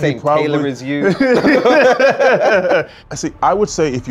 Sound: lauhing

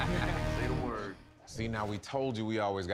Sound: laughter

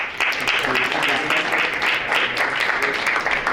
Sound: applause

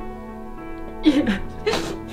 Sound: both sobbing

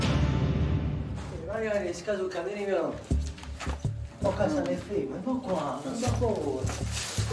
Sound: ominous music; speaking in Italian

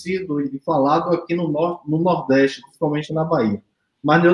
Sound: speaks portuguese

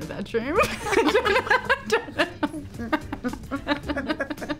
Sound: Olivia and Emma laugh

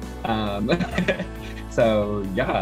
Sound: laughs

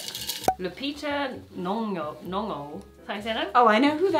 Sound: cork popping

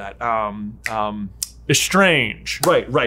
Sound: snaps

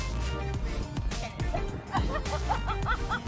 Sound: laughs

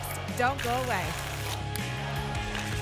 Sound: tickets shuffling

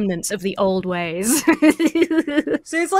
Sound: laughs

